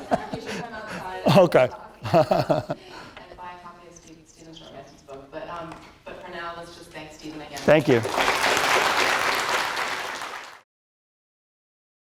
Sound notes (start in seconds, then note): 0.0 laughter; 7.6 applause